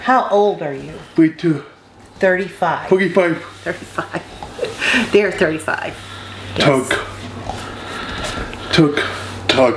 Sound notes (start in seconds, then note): 3.7 laughs